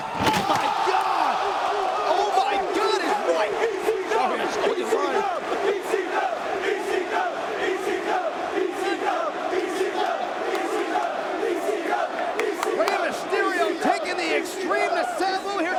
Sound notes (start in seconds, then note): 0.2 spectators exclaiming; 4.3 Taz chuckling; 6.1 spectators chanting "ECW!"